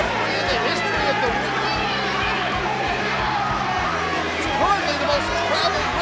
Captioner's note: crowd chanting